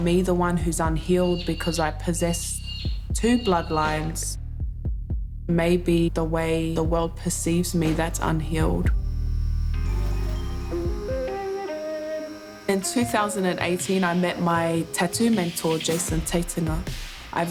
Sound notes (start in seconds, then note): 9.4 tattoo gun whirs; 9.7 upbeat music